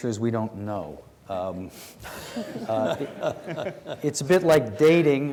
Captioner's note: congregation laughs